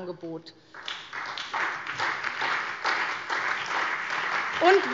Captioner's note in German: Beifall SPD, BÜNDNIS 90/DIE GRÜNEN, Freie Demokraten und DIE LINKE